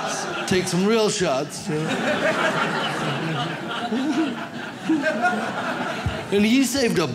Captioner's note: audience laughs